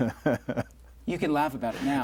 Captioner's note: laughing